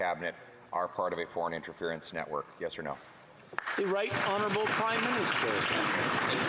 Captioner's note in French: voix de l'interprète